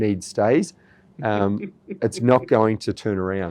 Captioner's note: laughs